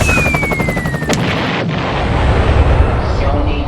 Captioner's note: explosion